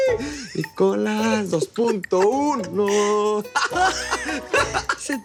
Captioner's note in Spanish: Risas